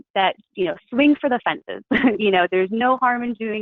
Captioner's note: chuckles